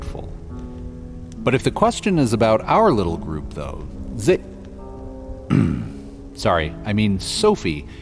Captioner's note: clears throat